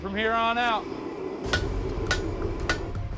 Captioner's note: hammering